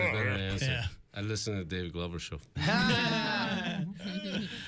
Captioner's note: laughter